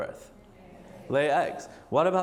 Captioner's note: audience murmurs